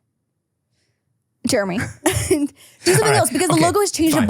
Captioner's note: laughs